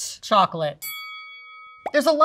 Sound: bell dings

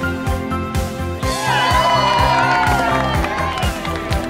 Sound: cheering and clapping

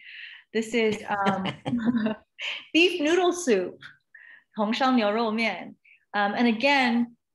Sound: non-english speech

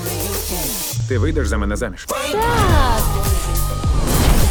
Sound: shouts

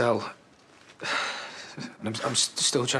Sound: Aaron sighs

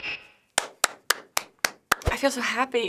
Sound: clapping

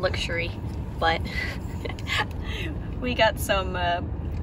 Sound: laugh

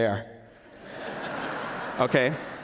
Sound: laughter

